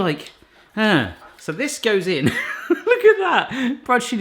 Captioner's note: he laughs